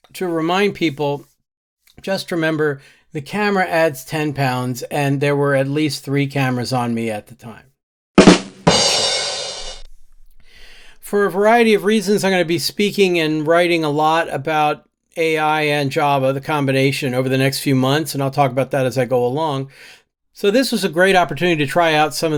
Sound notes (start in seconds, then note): 8.2 bang